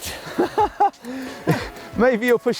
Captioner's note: laughs